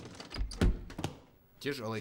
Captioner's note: thud